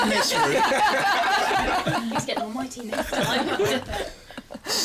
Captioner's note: laughter